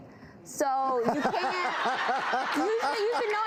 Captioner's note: laughing